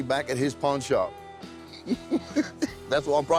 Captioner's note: laughs